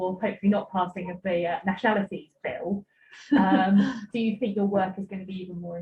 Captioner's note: laughs